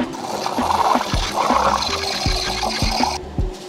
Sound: machine beeping; mixer revving

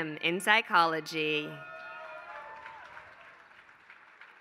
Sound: applause

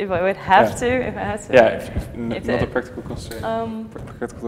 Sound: murmurs

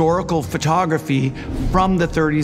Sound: graphic whooshing

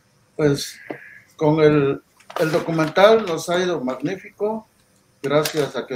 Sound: speaking in foreign language

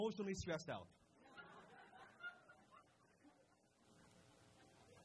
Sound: crowd laughs

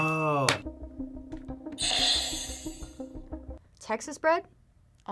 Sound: buzzer rings

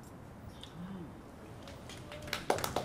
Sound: applause

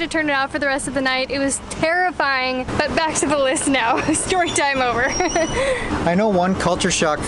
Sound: laughter

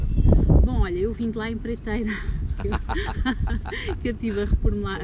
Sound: laughs

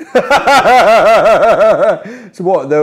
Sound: laughing

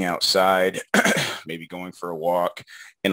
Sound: clears throat

